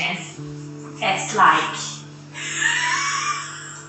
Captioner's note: laughs